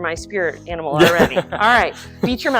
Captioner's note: laughs